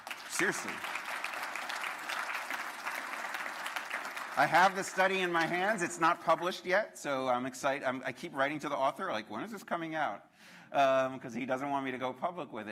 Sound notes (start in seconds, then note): 0.0 applause